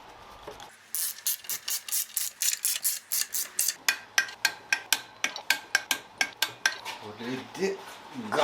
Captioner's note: working sound